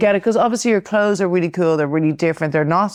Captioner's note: none